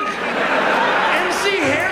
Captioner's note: audience laughs